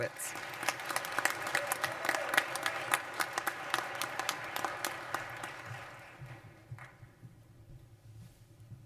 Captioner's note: applause